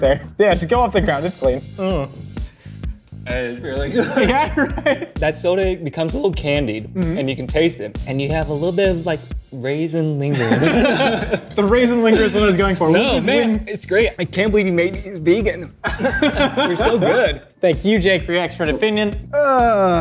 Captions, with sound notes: Yeah, it should come off the ground, it's clean. - It's really good. - Yeah? All right. - That's soda, it becomes a little candied, and you can taste it. And you have a little bit of like raisin lingering. (laughing) - The raisin linger is always going for- - No, man. It's great. I can't believe you made it's big and... (laughing) - You're so good. - Thank you, Jake, for your expert opinion.